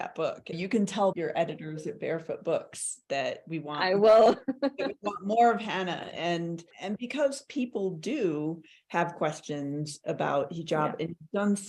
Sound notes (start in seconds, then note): 4.2 laughs